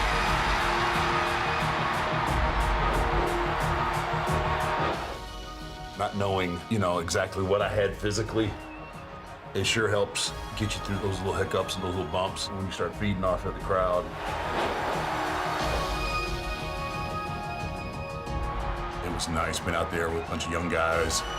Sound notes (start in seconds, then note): 0.0 audience cheering; 0.3 dramatic music; 14.0 audience cheering; 14.7 upbeat music